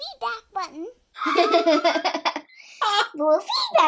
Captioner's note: both laughing